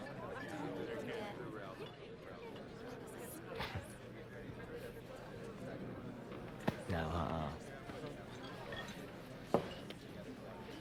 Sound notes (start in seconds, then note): 3.7 chuckles